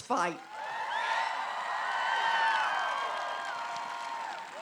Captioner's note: applause